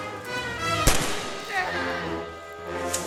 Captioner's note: gunshot